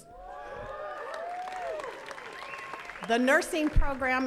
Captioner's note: attendees cheering and clapping